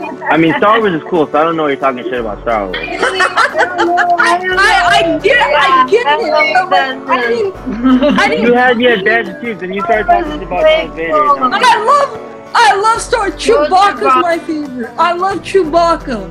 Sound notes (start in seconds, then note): 2.7 laughter